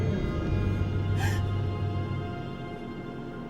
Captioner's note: crying